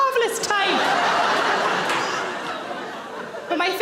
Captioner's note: audience laughing